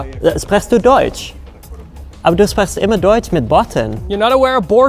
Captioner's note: speaking in German